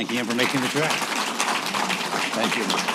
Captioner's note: applause